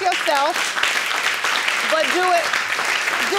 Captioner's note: audience claps